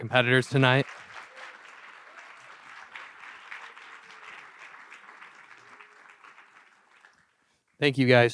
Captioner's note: applause